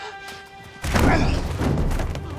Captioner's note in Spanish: Golpes